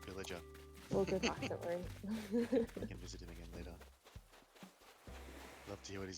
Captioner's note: laughing